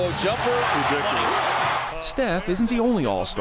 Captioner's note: audience cheering